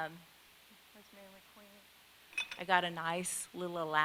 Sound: speaks faintly

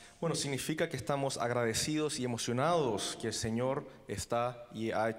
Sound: translating in foreign language

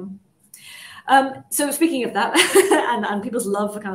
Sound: chuckles

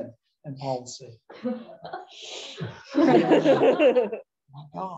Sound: laughter

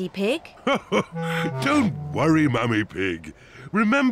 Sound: laughs

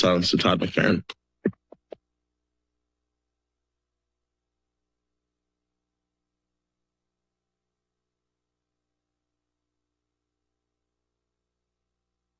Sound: moment of silence

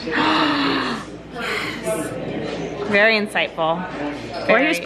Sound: gasps

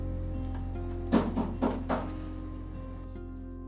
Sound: rapid knocking

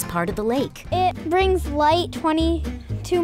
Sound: child voice

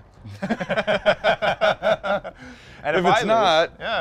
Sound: both laughing

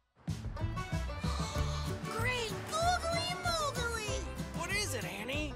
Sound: gasps

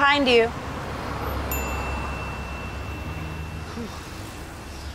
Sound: ding

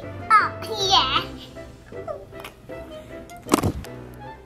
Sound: laughs

